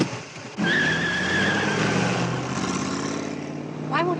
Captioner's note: car engine revs; tires screech